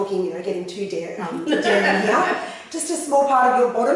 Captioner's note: laughter